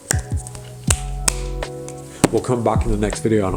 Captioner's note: cards landing